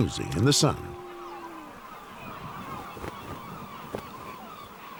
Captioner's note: seagulls cawing